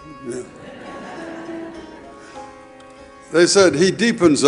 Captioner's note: audience laughing